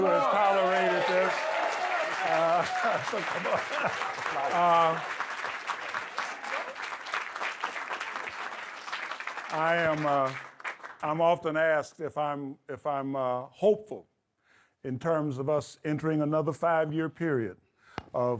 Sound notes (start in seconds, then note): 1.2 audience clapping; 4.1 Harry laughs